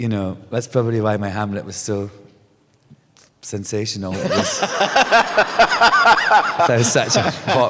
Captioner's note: laughter